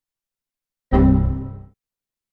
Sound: error sound

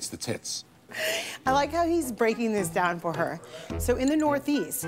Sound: laughing

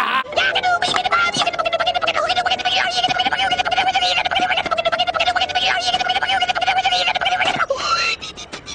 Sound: wild flea noises

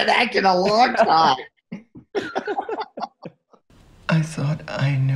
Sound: both laugh

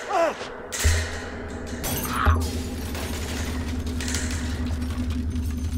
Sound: struggling from outside

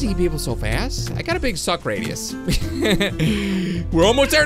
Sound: laughs

